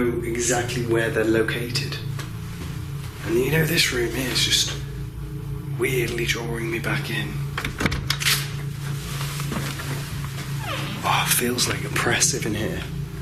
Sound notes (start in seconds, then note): 7.9 door squeaks